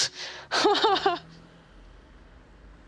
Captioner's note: laughs